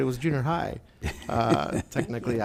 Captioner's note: laughing